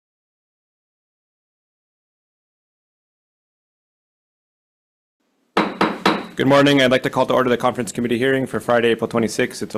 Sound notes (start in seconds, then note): 5.6 gavel banging